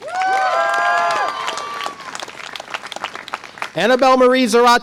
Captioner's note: audience applause and cheer